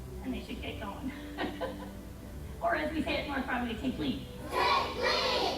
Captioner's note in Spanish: risas